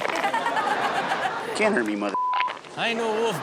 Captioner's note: audience laughs; beep